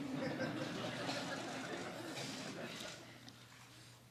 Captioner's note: laughter